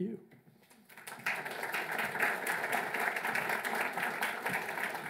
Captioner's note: audience applauds